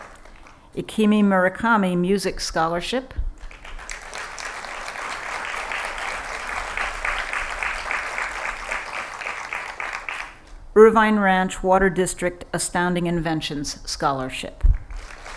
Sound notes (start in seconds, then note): 3.4 applause